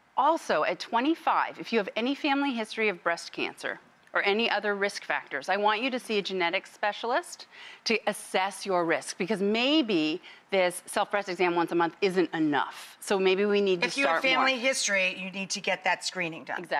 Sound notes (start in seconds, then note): none